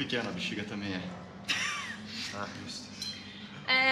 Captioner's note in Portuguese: Risos